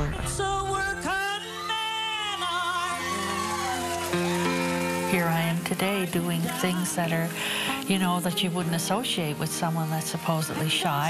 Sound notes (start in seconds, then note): 0.4 audience applause and cheers